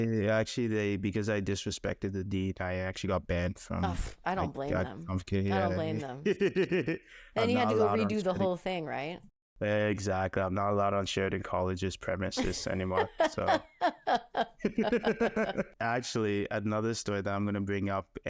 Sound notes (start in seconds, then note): 5.5 laughing; 12.4 laughing; 14.6 laughs